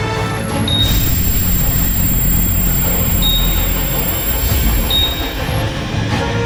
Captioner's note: machines humming; buttons beeping